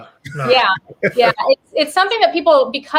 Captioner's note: laughs